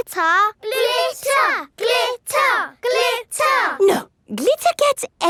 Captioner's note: chanting